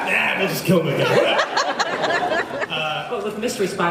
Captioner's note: laughs